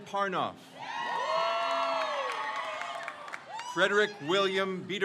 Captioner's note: crowd cheers